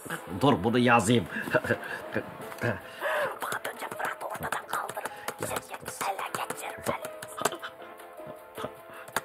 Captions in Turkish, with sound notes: Dur bunu yazayım. (Televizyon ses) Bıldırcın Fırat'ı ortadan kaldırıp şirketi ele geçirmeli.